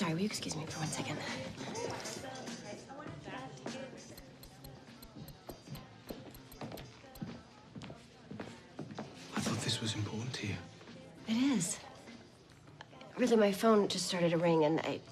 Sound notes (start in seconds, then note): 5.0 texting